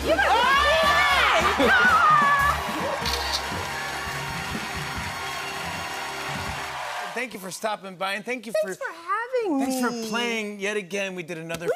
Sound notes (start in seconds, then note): 3.0 camera shutter clicks; 4.8 cheers and applause